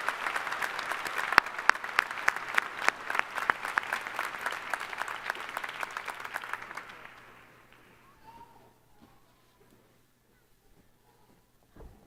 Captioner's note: applause